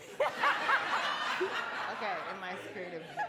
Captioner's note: laughing